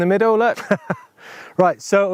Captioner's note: laughs